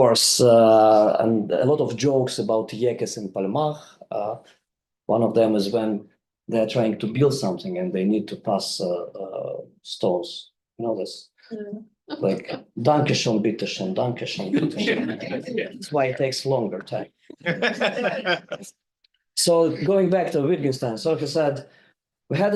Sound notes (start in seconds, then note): 13.0 speaks in foreign language; 17.3 group member laughing